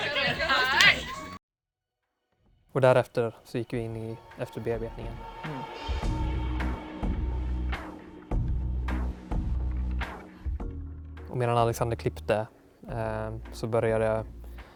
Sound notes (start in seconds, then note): 1.5 deafening silence